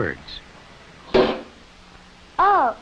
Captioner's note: bang!